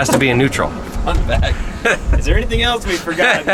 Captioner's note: laughs